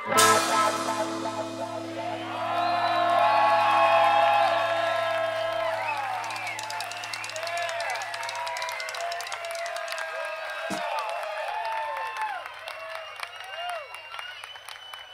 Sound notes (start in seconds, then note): 2.5 audience cheers